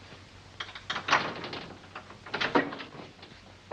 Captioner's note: door opens